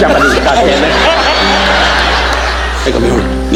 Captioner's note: audience laughing; Don imitating Japanese language